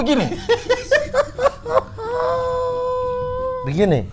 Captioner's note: laughing